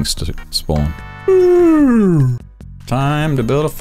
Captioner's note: Sassy yawning